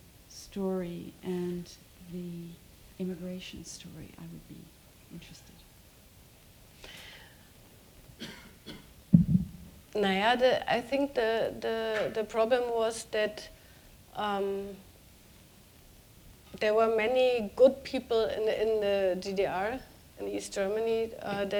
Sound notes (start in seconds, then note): 9.7 speaking german